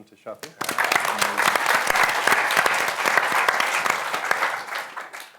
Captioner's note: applause